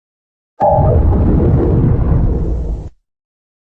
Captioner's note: Zalgo Windows XD Random Edition Shutdown Sound